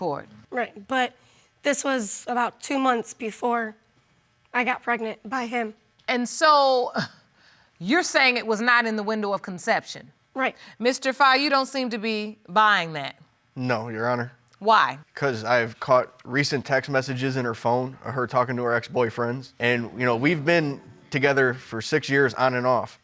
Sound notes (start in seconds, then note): 6.6 sighs